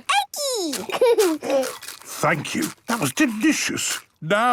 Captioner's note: laughing, crunching